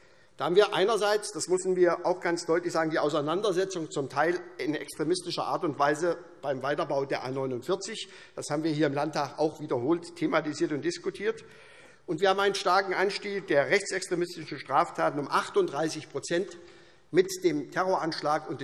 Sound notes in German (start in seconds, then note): none